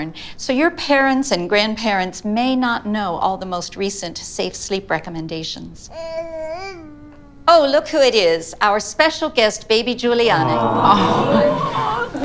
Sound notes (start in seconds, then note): 5.5 baby talk; 10.3 class interjects "aww!"